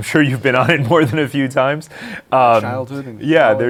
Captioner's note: laughs